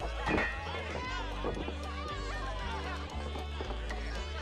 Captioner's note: bottles clinking